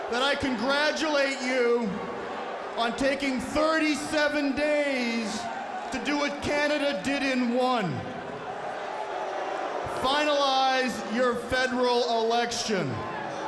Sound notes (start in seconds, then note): none